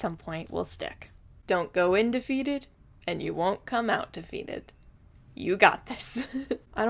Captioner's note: giggles